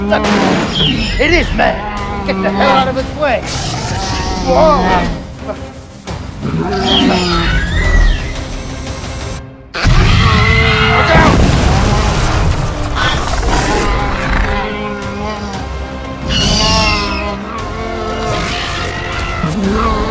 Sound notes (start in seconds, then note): 4.9 Ankylosaurus and Raptor Sounds; 11.0 crash Sounds; 12.9 Ankylosaurus and Raptor Sounds